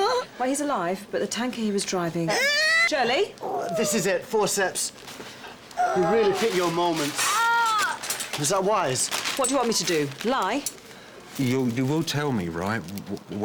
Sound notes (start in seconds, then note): 2.3 shirley cries out